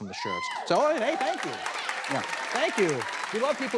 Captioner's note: crowd cheers